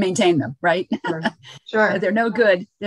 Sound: chuckles

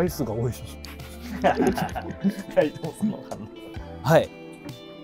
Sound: laughing

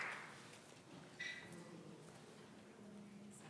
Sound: applause

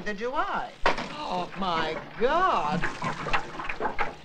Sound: phone clatters; water loudly splashing

